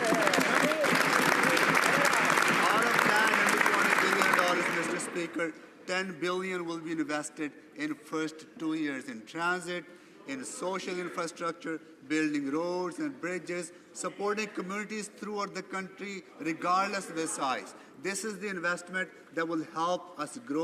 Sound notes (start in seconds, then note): 5.4 some Applause